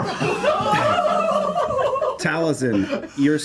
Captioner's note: laughter